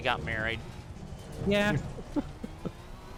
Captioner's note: chuckling